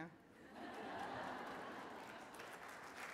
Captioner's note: laughter, applause